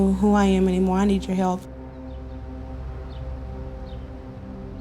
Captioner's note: none